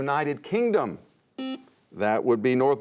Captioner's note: buzzer sounds